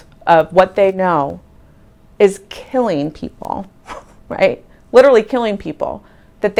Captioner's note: scoffing